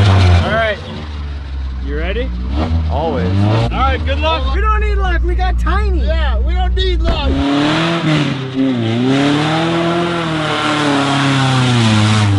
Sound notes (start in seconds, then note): 8.0 engine roars